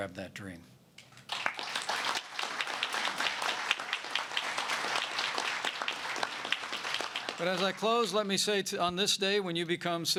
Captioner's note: applause